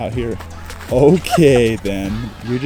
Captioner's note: giggling gently; laughing blissfully